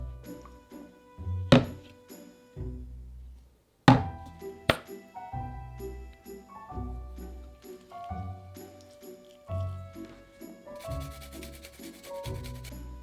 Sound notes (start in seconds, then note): 4.7 bottle pops